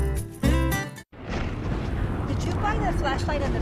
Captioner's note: wind and thunder roar